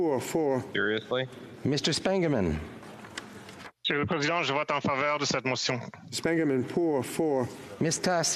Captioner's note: speaking FRENCH